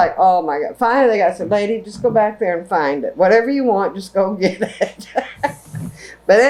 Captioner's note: laughs